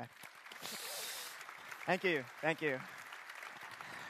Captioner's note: applause